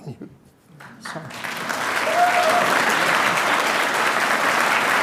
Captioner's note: audience applauding